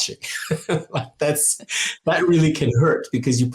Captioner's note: laughing